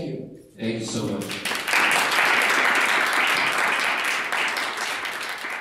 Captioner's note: audience applauds